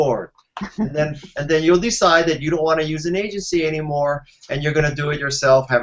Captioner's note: laughing